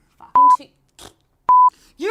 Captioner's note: beep